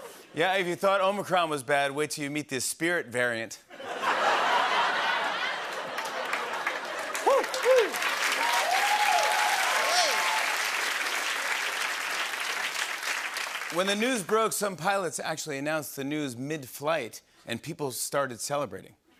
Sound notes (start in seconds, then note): 0.0 laughter; 3.7 laughter; 8.2 cheering and applause